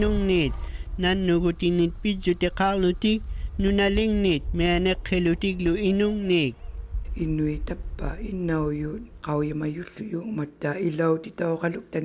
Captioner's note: speaking inuktitut